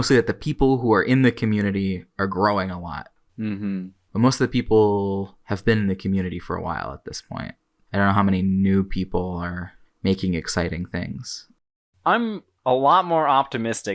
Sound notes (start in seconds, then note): none